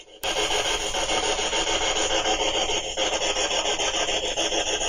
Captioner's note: static pulsing